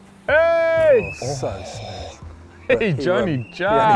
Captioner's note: yelling; laughing